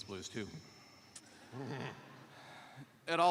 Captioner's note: laughter